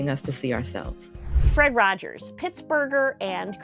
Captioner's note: computer whooshing